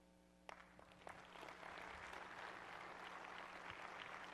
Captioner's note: applause